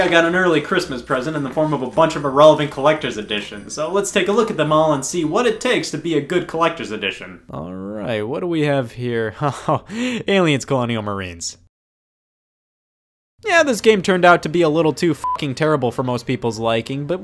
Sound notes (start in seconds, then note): 15.2 beep